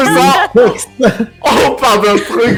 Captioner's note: general laugh